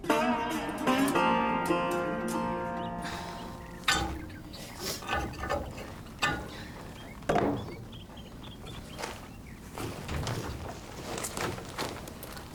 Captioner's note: snorts